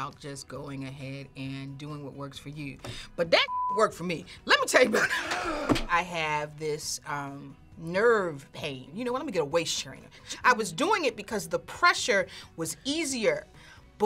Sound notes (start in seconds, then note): 5.2 gasps